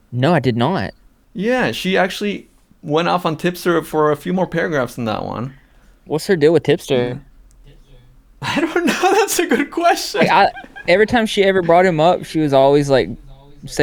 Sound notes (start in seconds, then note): 8.4 laughs